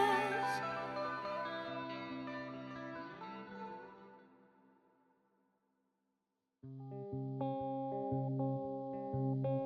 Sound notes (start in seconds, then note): 4.5 silence; 6.7 pensive guitar music